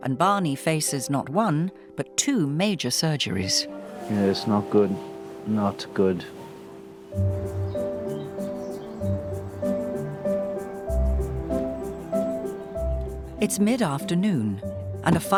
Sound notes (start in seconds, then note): 7.2 birds chirping; 8.4 gentle music